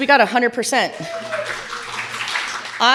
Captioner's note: audience applauding